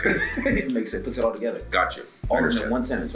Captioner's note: laugh